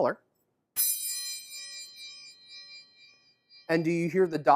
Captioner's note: triangle chime